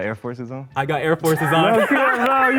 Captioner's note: men laugh